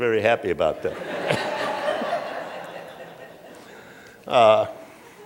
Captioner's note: laughter